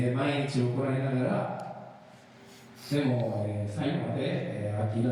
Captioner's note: speaking in foreign language